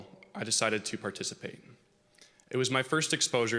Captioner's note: none